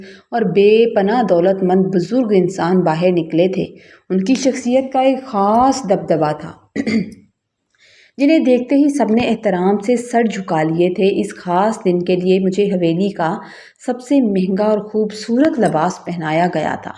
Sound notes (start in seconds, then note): 6.8 clears throat